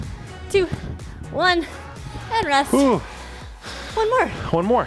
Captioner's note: upbeat music; sighs